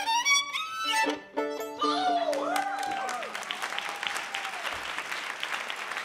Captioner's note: audience cheering and applauding